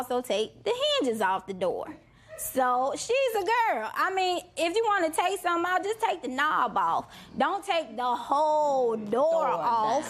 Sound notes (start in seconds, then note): none